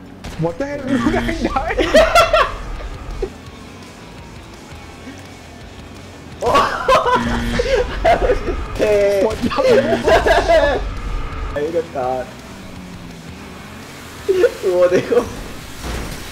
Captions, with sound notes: - What the hell? Dude I died! (man laughing) (man laughing) (buzzer screeching) (rock music) (speaking foreign language)